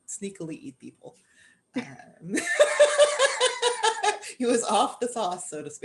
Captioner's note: laughter